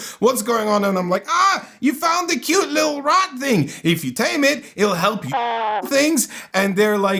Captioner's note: rasp